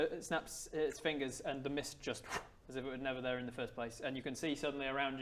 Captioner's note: pffph